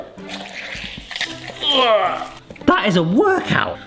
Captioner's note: orange squelching; straining